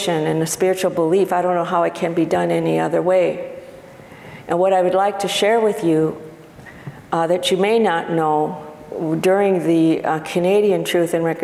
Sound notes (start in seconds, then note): none